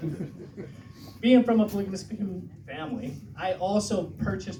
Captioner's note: stutter